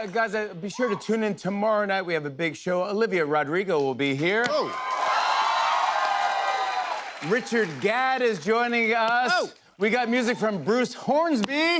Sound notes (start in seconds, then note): 4.6 cheers and applause